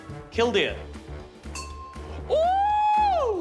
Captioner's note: dink!